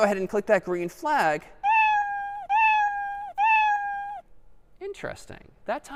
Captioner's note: three meows